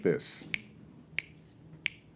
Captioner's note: snapping fingers